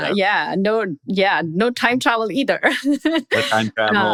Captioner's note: laughs